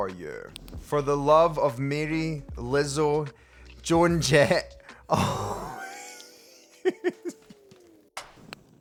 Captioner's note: laughs